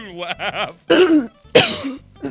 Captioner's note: laughing; clears throat